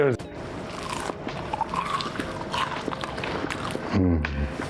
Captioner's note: food crunching